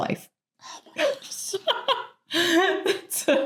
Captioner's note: laughing